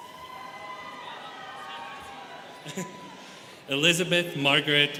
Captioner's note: students cheering